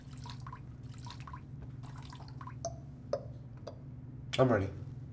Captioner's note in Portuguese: Som de urina gotejando e depois para